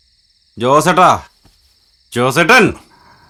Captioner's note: none